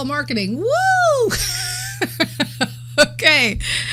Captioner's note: laughs